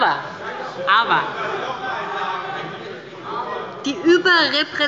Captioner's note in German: Zurufe von dem BÜNDNIS 90/DIE GRÜNEN